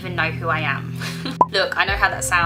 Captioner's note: laughs